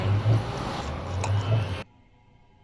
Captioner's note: tea noises